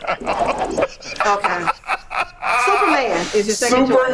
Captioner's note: laughing